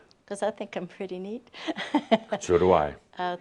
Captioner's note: she chuckles